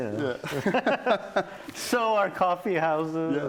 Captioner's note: laughs